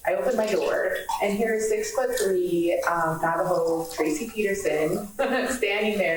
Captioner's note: laughs